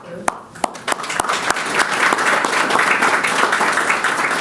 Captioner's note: audience clapping